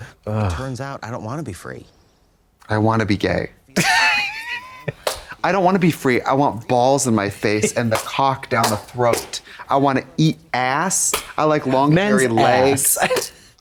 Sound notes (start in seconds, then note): 4.4 Katya wheezes